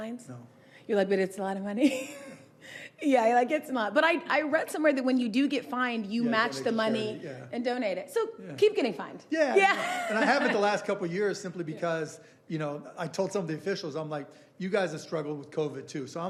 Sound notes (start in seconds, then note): 9.5 laughing